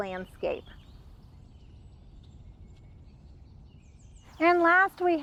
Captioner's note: birds chirping